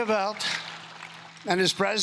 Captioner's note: cheering and Applause